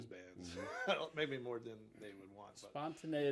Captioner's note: chuckles